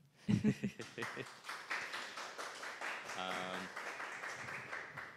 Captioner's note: audience applauding